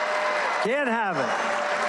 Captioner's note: applause